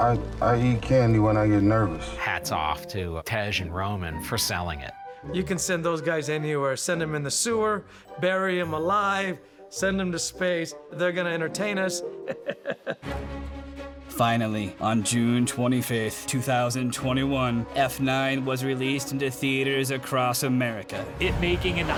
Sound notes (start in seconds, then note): 12.2 chuckles